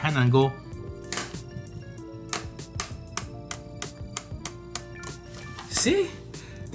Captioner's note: clacks speaker flaps open and closed